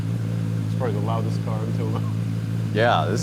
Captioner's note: laughs